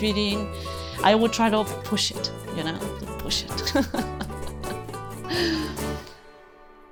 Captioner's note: laughs